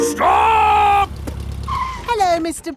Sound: brakes squeal

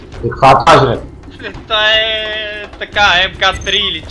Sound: laugh

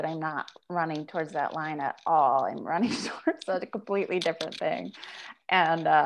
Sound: chuckles

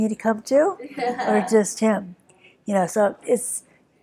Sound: laughing

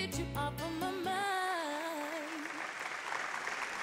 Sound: applause

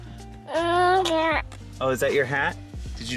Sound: baby babbling

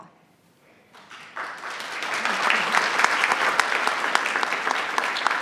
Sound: audience applauding

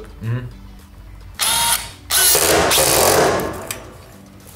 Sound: drill screeching

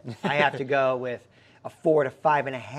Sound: laughing

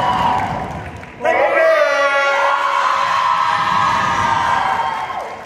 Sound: cheering

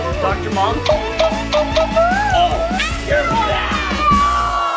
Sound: cartoony injection sound

